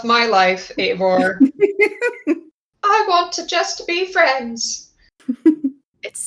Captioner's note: laugh